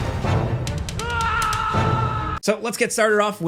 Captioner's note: character screaming